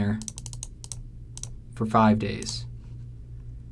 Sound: computer mouse clicking

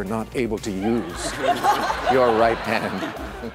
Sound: laughter

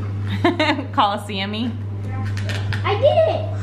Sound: laughs

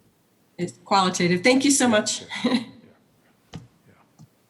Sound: laughs

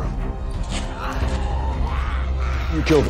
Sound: snarling

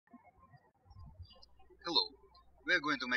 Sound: birds chirping

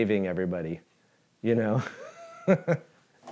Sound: chuckles

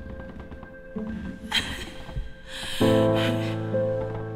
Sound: Leanna sobs

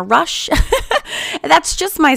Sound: laughing

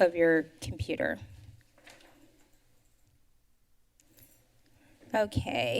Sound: pause

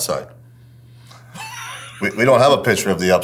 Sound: laughs

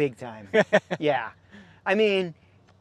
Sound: laughing

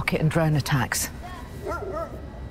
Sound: dog barking

